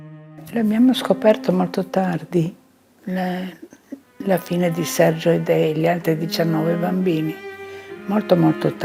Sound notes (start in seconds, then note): 0.8 speaking in foreign language